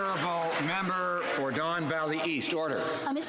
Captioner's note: some Applause